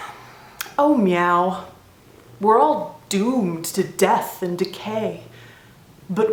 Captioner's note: sigh